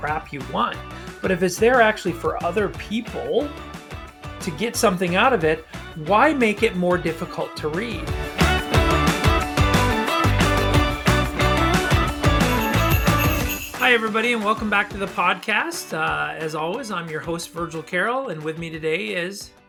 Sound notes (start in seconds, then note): 12.3 sleigh bells jingleing